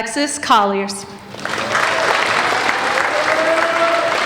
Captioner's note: applauding